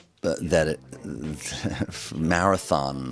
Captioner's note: chuckles